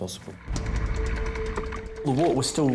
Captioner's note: lifeboat mechanism rattling